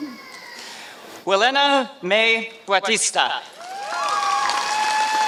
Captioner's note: applause